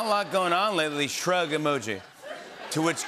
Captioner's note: laughter